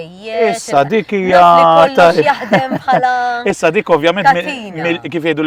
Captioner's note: chuckles